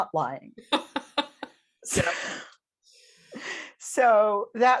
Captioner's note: laughing